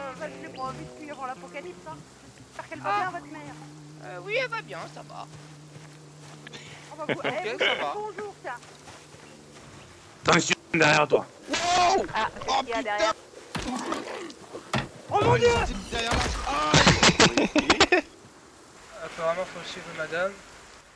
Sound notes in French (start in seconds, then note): 7.0 rires; 16.6 rires